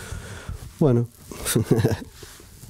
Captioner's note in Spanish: risas